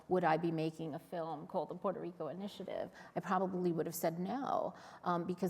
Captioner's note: none